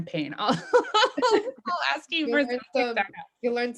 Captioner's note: laughing